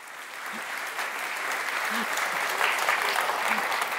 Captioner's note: audience applauding